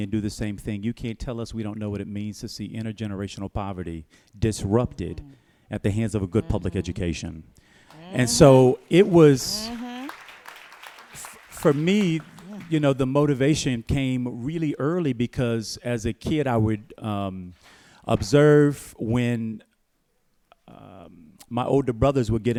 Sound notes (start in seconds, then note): 9.4 applause